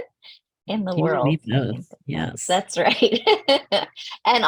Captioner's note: speaking faintly